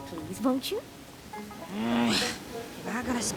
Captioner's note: groans